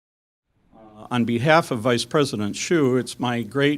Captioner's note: voiceover